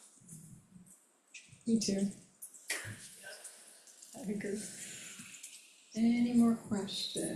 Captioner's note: laughs